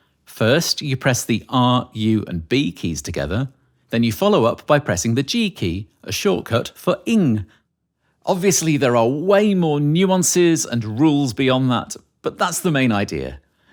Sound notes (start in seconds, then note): none